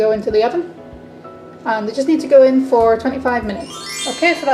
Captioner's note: sparkly transition sound effect